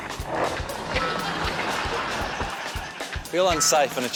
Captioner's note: laughter